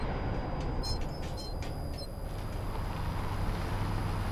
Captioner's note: sign creaking; Humvee rumbling